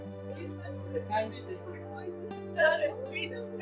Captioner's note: people chattering